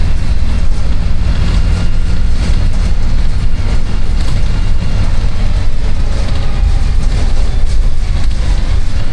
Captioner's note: bus sounds